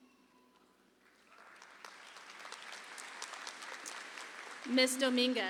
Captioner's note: audience applauds